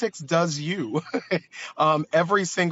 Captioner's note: laughs